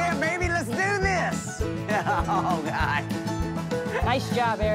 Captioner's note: laughing